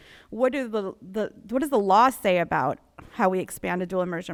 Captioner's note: none